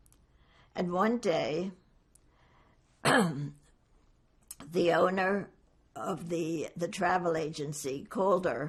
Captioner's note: clears throat